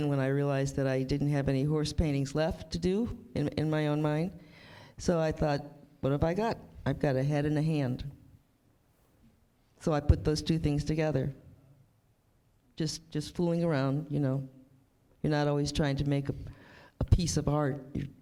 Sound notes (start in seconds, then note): none